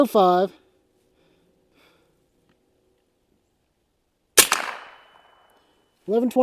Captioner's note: gunshot